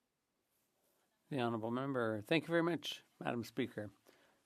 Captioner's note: speaking French